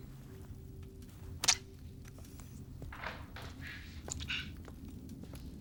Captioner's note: syringe squelches